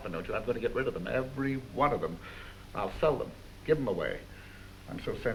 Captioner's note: none